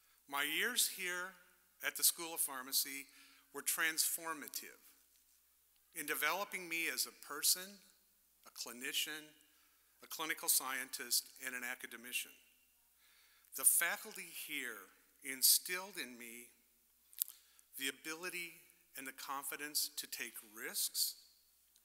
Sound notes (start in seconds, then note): none